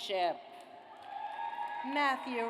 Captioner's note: audience applauds